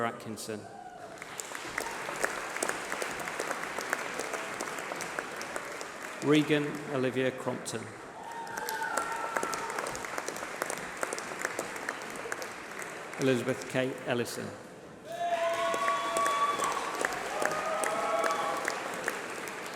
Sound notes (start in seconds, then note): 6.4 applause